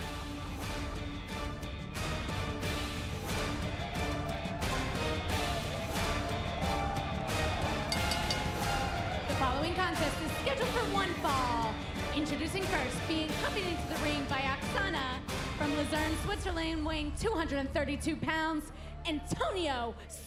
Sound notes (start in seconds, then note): 7.9 bell ringing